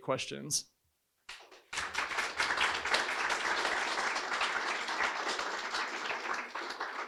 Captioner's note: applause